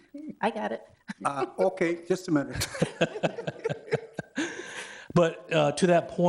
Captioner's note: people chuckle